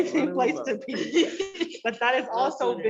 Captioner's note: all laugh